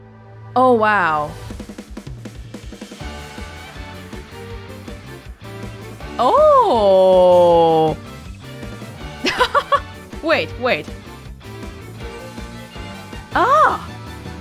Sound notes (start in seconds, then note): 9.2 chuckles